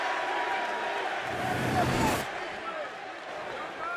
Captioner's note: fans cheering